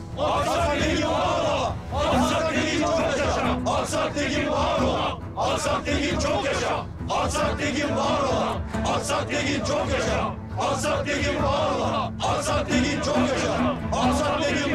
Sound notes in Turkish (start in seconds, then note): 5.9 Tezahürat yapılıyor